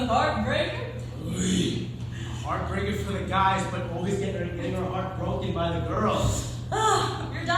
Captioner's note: groans